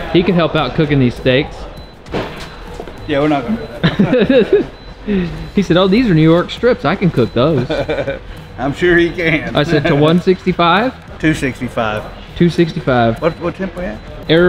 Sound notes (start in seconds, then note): 3.4 laughs